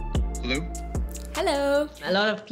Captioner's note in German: englisch